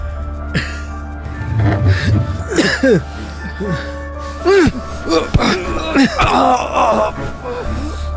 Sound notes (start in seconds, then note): 2.2 coughs; 5.9 grunts in pain